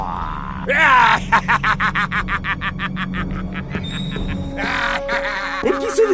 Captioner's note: laughter